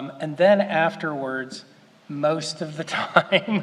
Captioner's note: laughs